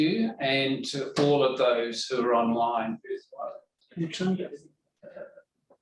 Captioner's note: background chatter